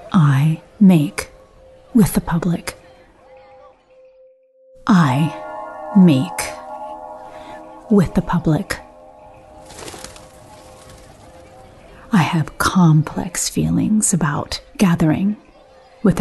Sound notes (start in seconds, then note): 4.8 bell chiming; 9.6 bird wings fluttering